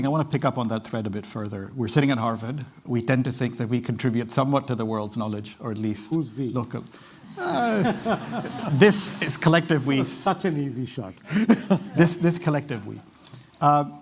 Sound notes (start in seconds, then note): 7.3 laughter